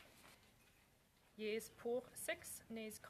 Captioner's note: speaking French